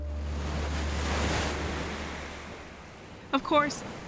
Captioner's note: waves crashing